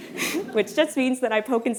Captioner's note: audience laughing